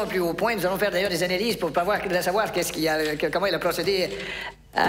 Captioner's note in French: balbutiant